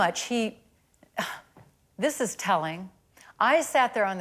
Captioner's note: scoffs